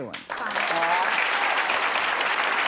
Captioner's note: audience applauding